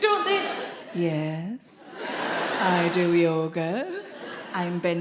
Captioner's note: audience laughing